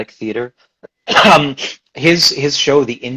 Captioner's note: coughs